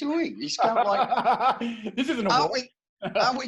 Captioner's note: laughing